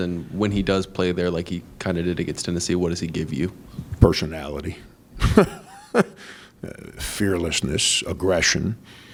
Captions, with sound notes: And when he does play there, like he kind of did against Tennessee, what does he give you? - Personality. (laughs) Fearlessness, aggression.